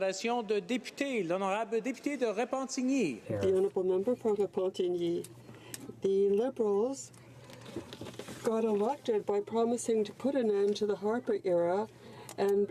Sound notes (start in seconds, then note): 4.2 speaking in french